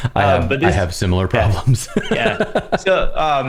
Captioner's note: laughter